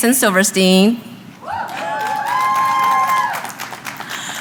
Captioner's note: applause